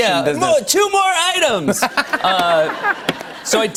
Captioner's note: laughter